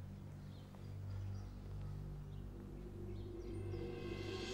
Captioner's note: birds chirping sound